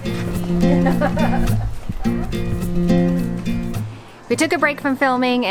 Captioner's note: laughs